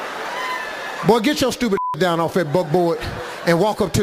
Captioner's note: beeping